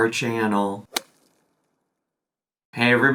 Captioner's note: logo thuds